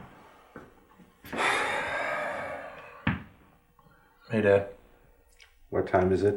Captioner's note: sighs